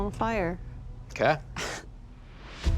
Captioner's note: laughs softly